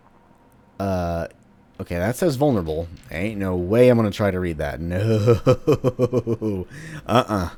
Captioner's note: laughs while saying "No"